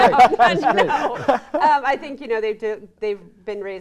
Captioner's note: all laugh